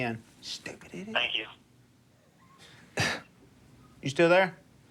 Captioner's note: whispers; on phone